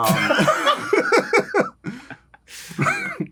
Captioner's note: laughter